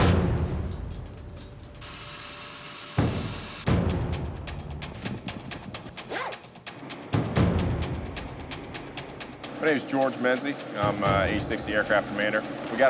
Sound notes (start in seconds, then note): 6.0 zipping